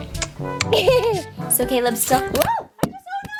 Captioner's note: laughs